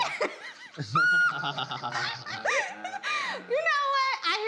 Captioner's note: all laughing